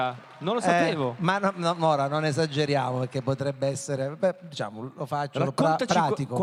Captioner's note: applause